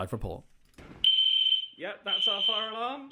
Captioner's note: alarm blares